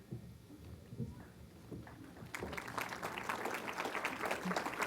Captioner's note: applause